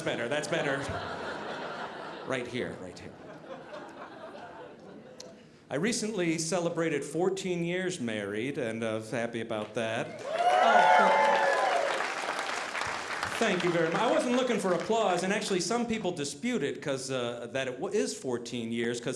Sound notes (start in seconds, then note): 10.0 audience cheering